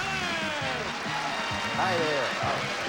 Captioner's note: audience applauding